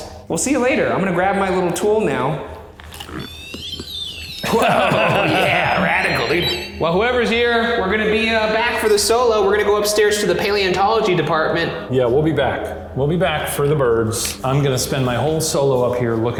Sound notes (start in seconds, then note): 3.0 REM-Pod beeping; 4.2 laughing